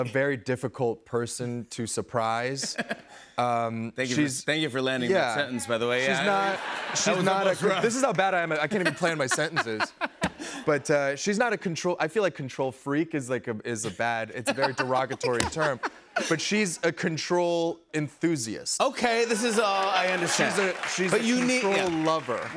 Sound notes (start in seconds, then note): 6.1 laughter